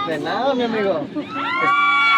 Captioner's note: child speaking in Spanish; speaking in Spanish; crowd cheering